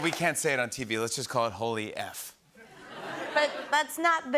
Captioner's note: laughter